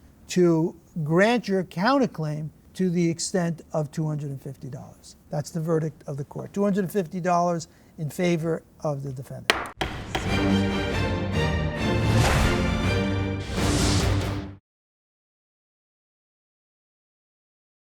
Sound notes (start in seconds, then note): 9.4 gavel knocking; 9.8 outro orchestral music